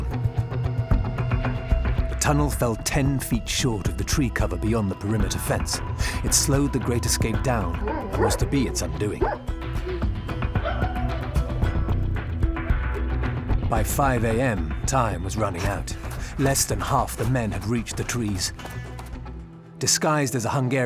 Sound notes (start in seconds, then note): 10.5 dogs barking